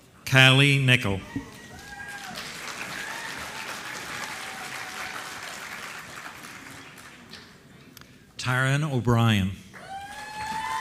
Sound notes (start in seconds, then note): 1.5 applause; 9.8 applause